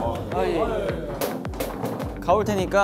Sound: bang

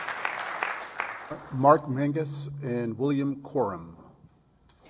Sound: applause

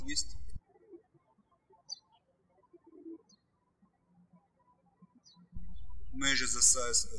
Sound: birds chirping

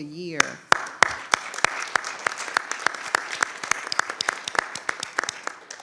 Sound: audience applauds

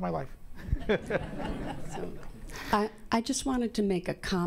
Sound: audience laughing

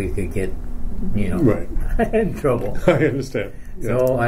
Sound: chuckle; chuckles

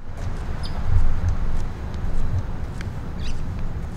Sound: bird chirping

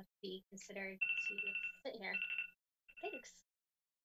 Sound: clock ringing drowns out speaker

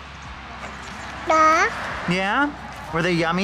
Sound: baby babbling

